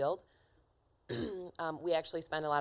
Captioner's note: clearing throat